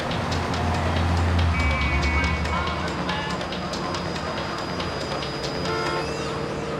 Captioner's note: engine revving; horn honking; upbeat music